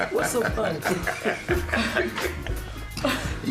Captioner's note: laughter